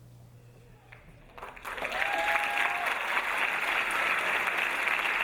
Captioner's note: audience applauding